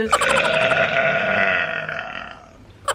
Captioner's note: belches